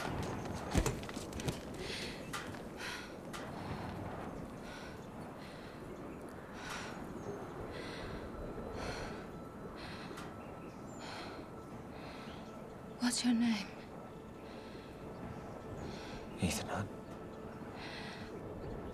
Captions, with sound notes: (panting) What's your name? Ethan Hunt.